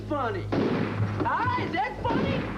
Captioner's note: bang